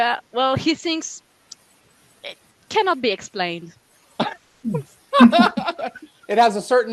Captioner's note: translating from French